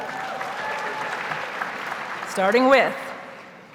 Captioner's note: audience cheers and applauds